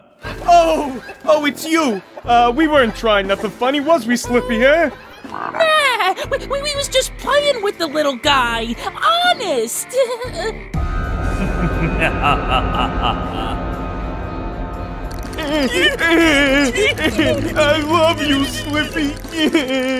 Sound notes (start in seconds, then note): 11.3 evil chuckle; 15.4 whimpering